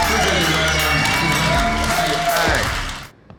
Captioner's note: audience cheers